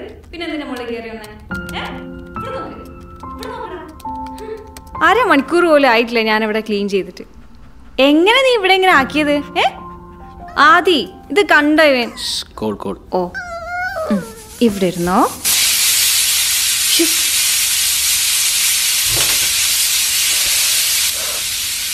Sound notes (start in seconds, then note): 15.5 pressure cooker whistling